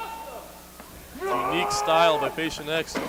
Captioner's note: yells